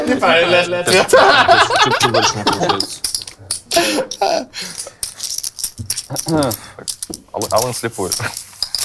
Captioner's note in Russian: смех; смех